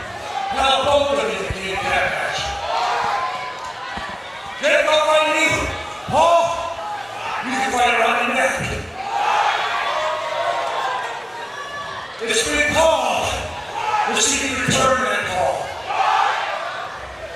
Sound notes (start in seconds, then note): 15.7 crowd